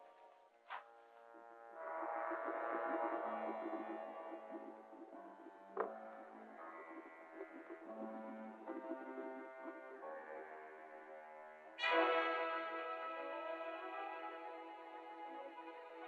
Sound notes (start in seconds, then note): 1.7 water bubbling; 11.7 intriguing music